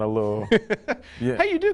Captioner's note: host laughing